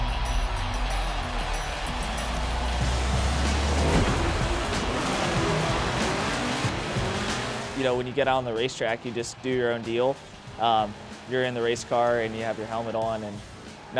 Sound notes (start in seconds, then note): 0.0 rock music; 0.2 crowd cheering; 4.3 engines roaring